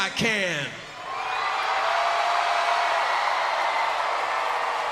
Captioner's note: crowd cheers